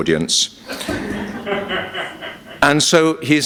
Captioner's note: laughter